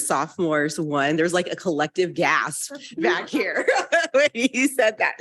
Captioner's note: laughs